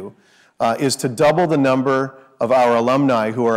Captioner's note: none